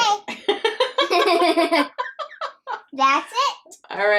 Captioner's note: both laughing